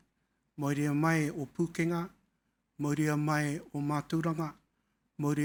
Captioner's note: speaking in foreign language